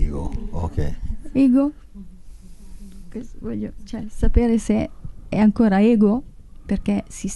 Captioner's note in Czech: mluví italsky